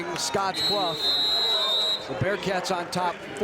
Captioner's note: whistle blows